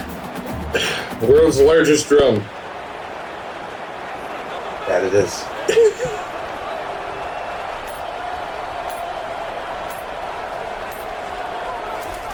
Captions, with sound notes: [Crowd Noises] The world's largest drum. [Crowd Noises] That it is. [LAUGH] [Crowd Noises]